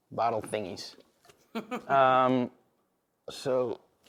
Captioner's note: laughing